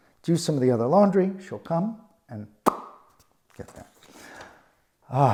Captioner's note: pops mouth